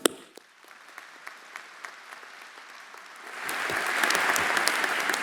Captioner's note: audience applauding